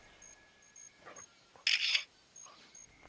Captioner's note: camera shutter